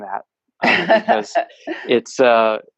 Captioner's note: laughs